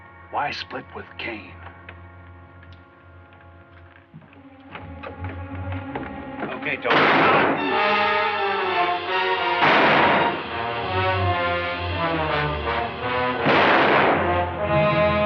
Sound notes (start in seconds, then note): 6.8 gunshot; 9.6 gunshot; 13.3 gunshot